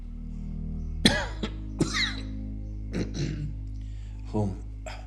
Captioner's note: man coughing